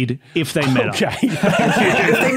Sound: group laughing

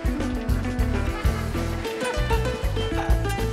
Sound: laughing

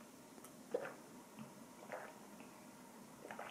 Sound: gulp; gulp Gulp; gulp Gulp Gulp

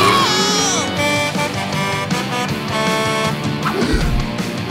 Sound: truck horn honking

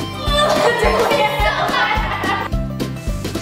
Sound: laughing

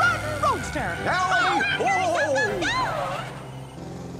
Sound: Goofy and Minnie shouting

